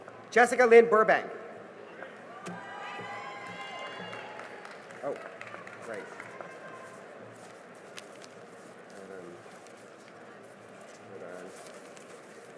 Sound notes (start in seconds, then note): 2.4 cheering and applause